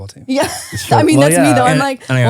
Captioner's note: laughs